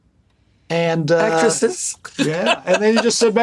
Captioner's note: laughs